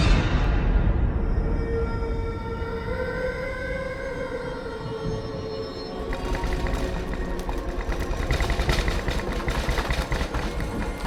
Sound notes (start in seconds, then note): 0.1 chilling music; 6.0 rattling and clattering